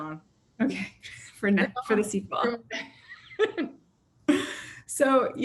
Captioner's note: laughing